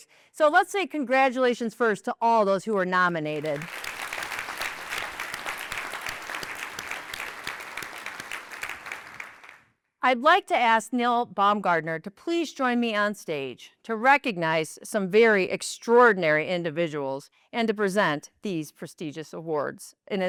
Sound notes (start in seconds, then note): 3.3 applause